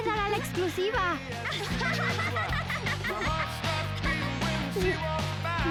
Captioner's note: laughter